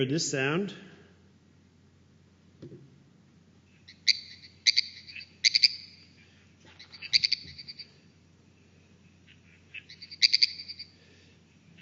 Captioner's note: sound of frog calling